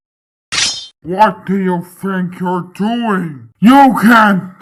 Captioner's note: pulls out sword